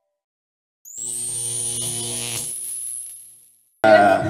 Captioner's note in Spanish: Sonido Eléctrico